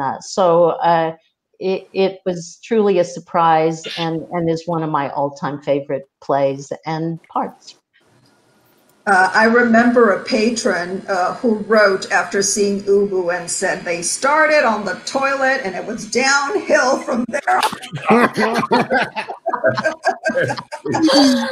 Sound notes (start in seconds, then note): 16.6 members laugh